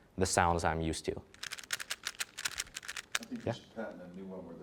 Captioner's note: cube clicking rhythmically